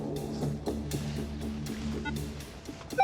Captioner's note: beeping